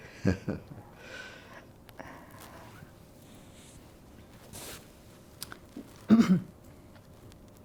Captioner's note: laughing